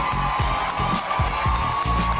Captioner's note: audience cheering